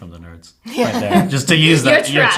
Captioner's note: laughing